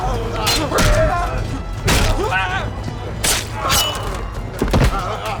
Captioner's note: grunting